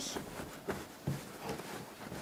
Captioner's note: rustling